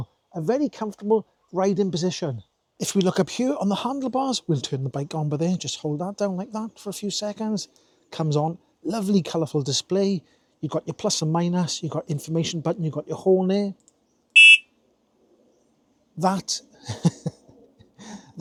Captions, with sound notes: a very comfortable riding position. If we look up here on the handlebars, we'll turn the bike on by there, just hold that down like that for a few seconds. Comes on, lovely colorful display. You've got your plus and minus, you've got information button, you've got your horn there. (beep) That. (laughs)